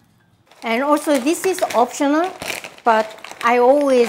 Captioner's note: plastic bag rustling